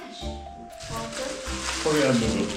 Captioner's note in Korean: 뒤적 뒤적